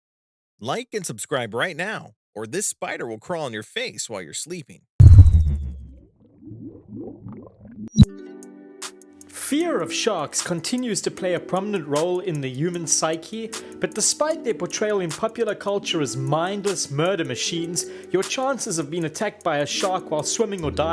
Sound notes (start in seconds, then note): 5.3 water burbling; 8.1 serene music